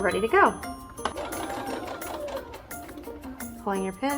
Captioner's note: sewing machine hums